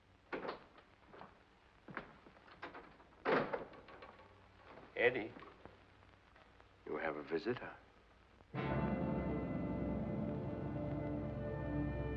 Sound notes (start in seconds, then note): 0.2 door opens; 2.5 door closes; 8.5 dramatic music